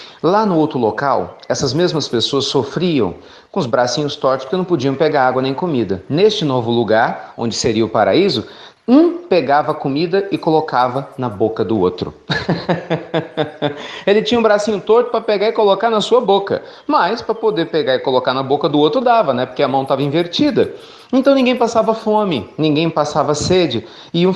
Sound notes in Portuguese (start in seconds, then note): 12.2 Risos